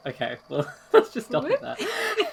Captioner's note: laughs